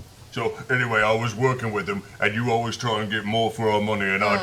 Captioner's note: haltingly